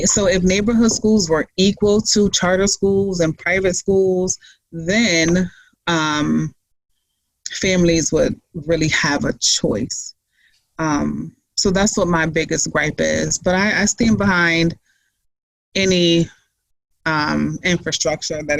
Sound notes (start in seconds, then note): none